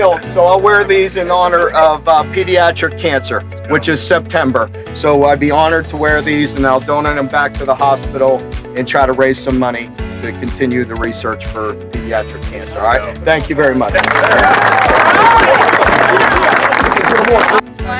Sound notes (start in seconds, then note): 13.8 applause